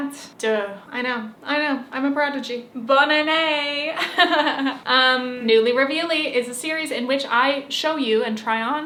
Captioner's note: laughs